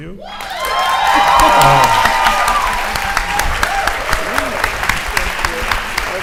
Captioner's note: audience cheering and applauding